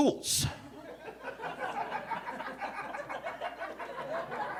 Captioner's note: audience laughing